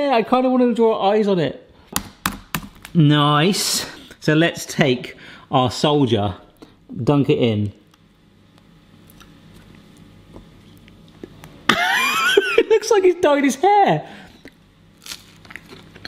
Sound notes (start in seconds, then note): 1.9 cracking the egg; 11.7 laughing